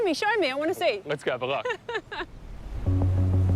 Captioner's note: laughs